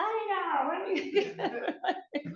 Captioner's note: laughter